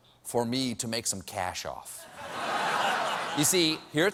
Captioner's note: laughter